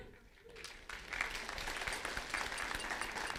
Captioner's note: applause